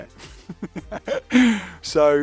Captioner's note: laughs